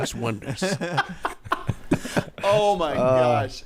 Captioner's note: laughing